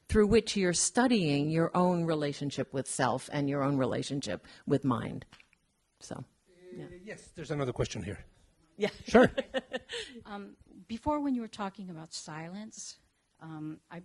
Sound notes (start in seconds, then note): 8.8 laughing